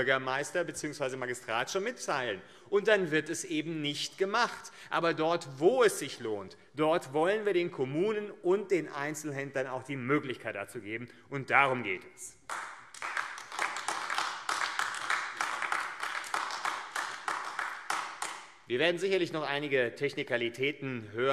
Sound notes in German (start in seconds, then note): 12.4 Beifall AfD